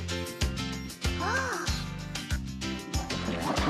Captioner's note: gasps